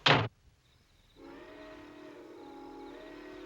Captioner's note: train whistle blows